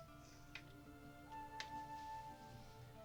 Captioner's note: none